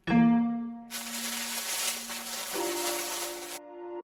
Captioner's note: zapping